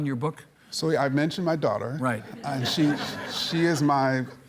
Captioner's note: audience laughing